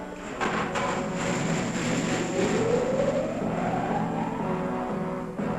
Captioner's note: machinery whirring